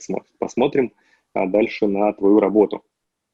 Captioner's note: none